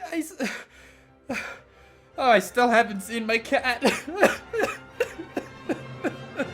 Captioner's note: crying